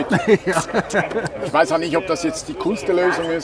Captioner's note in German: lacht